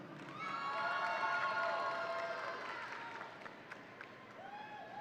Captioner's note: audience cheering